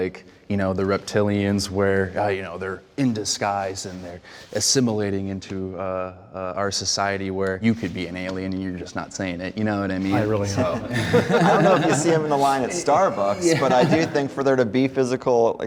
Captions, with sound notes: The reptilians where, you know, They're in disguise and they're... assimilating into- our society, where you could be an alien and you're just not saying it, You know what mean? -I really don't (Laughs) -I don't know if you see them in the line at Starbucks, But I do think for there to be physical...